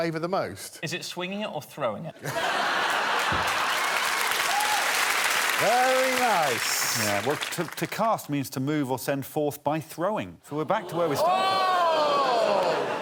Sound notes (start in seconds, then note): 3.7 loud laughter